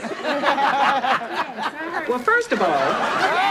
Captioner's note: audience laughs